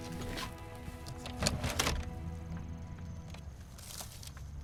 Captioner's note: clattering